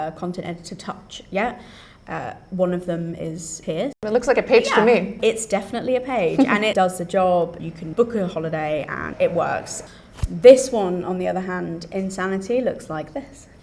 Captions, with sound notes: content editor touch yet. Uh, one of them is here. It looks like a page to me. Yeah, it's definitely a page. [laughs] And it does the job. You can book a holiday and it works. This one, on the other hand, in Sanity looks like this.